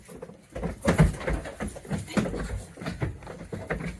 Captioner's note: loud shuffling